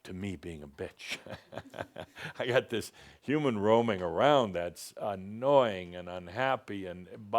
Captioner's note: Adamus chuckles